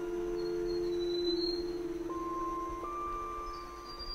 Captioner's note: birds chirping